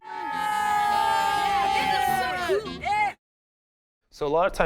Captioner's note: kids cheering